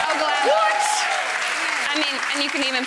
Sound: audience clapping

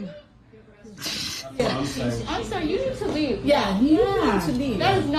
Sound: group chattering

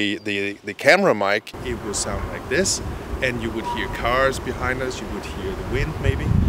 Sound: bad sounding audio - lots of wind and background noise

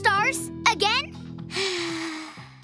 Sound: sigh

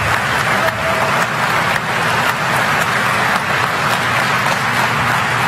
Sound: applause

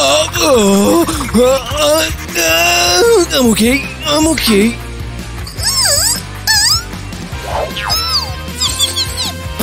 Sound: making frightened sounds

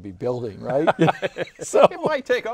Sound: laughing

